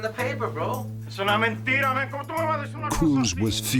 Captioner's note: speaking spanish